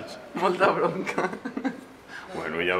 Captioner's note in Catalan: Risas